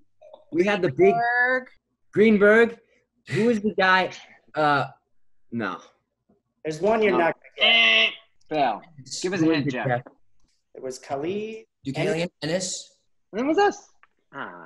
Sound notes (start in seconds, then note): 8.4 buzzer sound